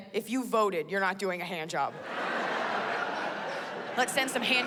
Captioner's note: laughter